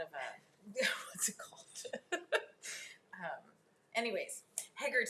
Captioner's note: laughs